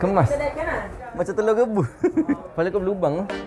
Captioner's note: laugh